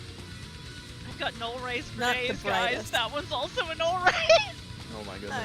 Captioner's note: laughs